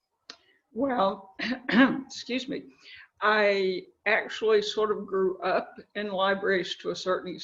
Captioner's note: cough